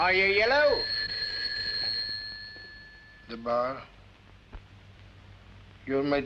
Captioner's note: telephone Ringing